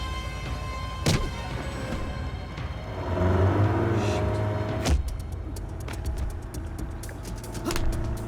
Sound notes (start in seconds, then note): 2.7 engine revving; 5.4 dramatic music